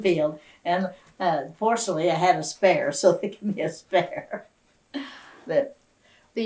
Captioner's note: laughs